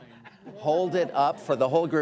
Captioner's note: laughter